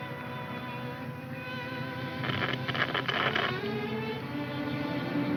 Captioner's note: radio crackles